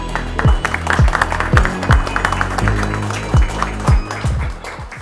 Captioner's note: applause